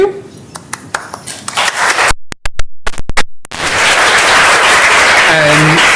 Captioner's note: applause